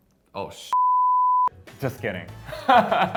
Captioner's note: beep; laughs